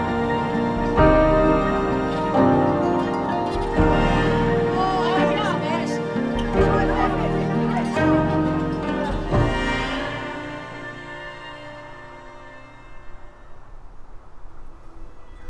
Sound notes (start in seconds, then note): 5.0 students chattering